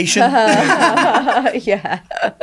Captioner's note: laughing